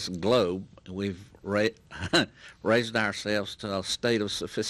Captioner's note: chuckles